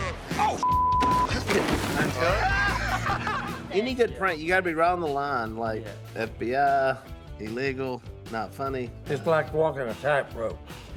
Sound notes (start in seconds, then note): 2.2 laughter